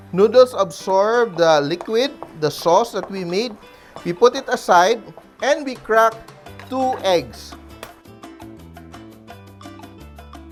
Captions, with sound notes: noodles absorbed the liquid; -- [Knock] [Knock] the sauce that we made, -- we put it aside, -- and we crack -- two eggs. [Crack]